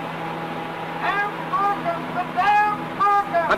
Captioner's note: man shouting